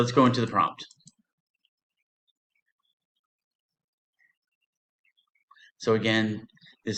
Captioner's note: short pause